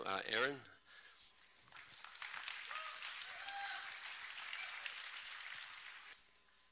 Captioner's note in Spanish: aplausos